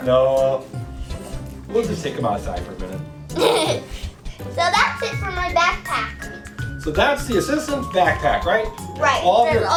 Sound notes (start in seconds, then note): 3.3 laughs